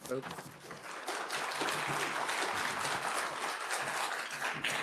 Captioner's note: attendees applauding